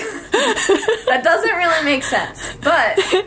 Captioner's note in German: das Lachen geht weiter